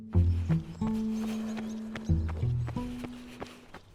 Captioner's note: running footsteps